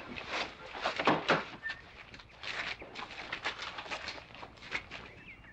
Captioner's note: bodies shuffling through the door